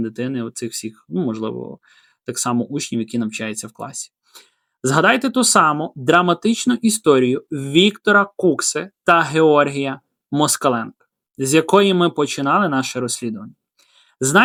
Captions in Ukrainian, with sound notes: дитини, оцих всіх, ну, можливо, так само учнів, які навчаються в класі. [сопіння] Згадайте ту саму драматичну історію Віктора Кукси та Георгія Москаленка, з якої ми починали наше розслідування.